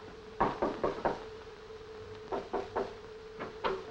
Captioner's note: knocking